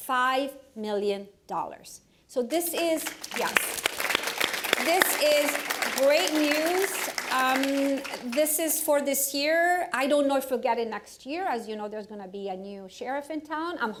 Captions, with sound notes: $5 million dollars [applause], so this is-yeah, this is [applause continues] great news, this is for this year. I don't know if we'll get it next year, as you know, there's going to be a new sheriff in town.